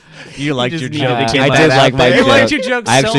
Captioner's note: laughs